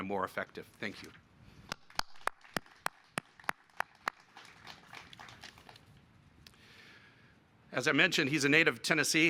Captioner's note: applause